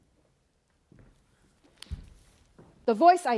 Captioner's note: footsteps